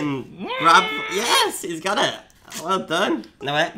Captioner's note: muffled scream